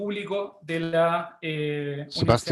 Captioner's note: speaking in a foreign language